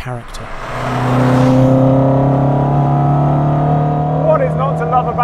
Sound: engine revving

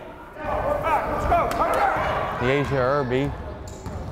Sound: fans shouting

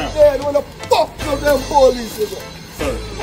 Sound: shouting

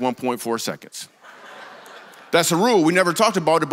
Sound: congregation laughs

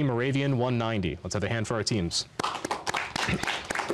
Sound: applause

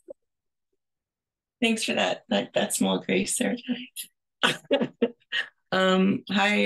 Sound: both laugh

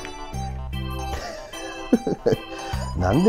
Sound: laughs

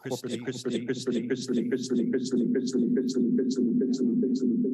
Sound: video speaker echoing

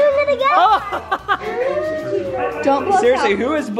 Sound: laughs

